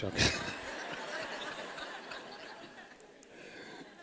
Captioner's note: laughter